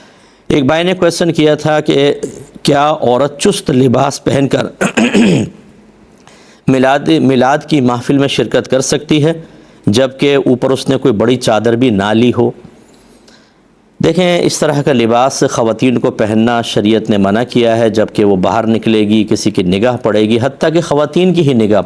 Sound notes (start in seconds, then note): 8.4 clears throat; 9.3 coughs